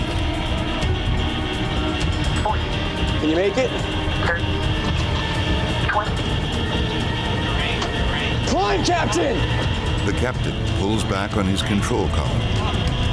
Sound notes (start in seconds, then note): 0.1 alarm sounding; 2.7 automated Voice; 4.5 automated Voice